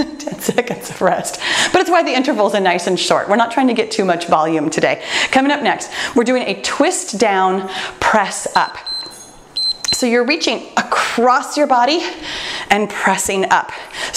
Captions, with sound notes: (laughs) 10 seconds of rest, but it's why the intervals are nice and short. We're not trying to get too much volume today. Coming up next, we're doing a twist-down press-up. (timer beeps) So you're reaching across your body and pressing up.